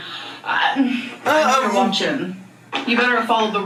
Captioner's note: mimics groan; groans